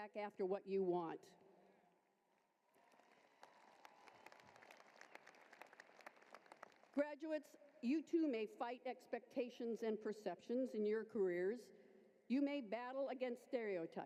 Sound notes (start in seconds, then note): 2.7 applause